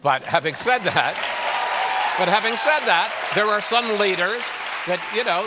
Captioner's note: cheers and applause